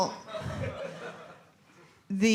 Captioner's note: laughter